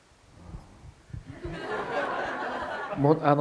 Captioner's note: audience laughter